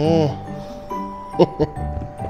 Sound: laughs

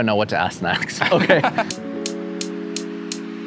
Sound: laughs; chill music

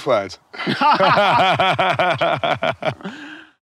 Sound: both laughing

